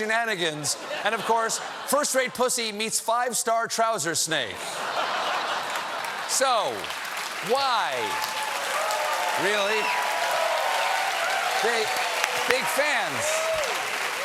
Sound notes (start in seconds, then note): 5.5 cheers and applause; 8.4 applause